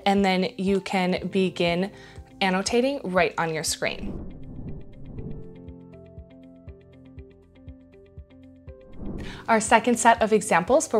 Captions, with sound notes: and then you can begin annotating right on your screen. (air whooshes) (gentle music) Our second set of examples